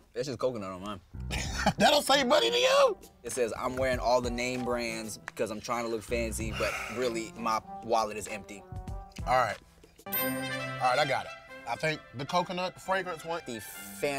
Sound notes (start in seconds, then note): 10.0 classical music; 10.1 bell dings